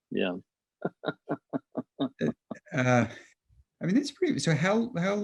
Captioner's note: laughing